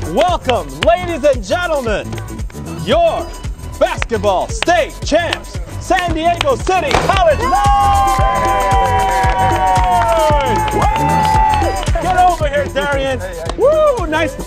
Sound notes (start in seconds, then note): 7.2 cheering